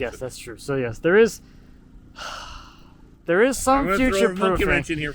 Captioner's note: sighs